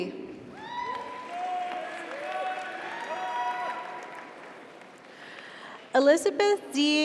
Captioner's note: audience cheers; audience applauds